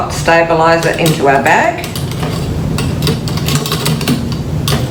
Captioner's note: metal clinks